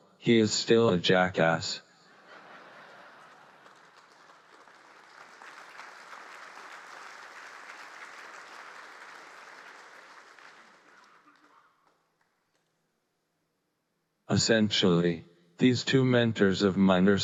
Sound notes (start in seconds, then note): 2.1 audience laughing; 4.2 audience applauding